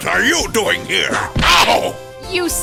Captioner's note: whip crack